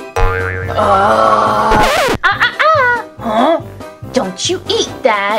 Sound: zombie groans

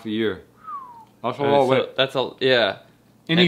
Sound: whistles

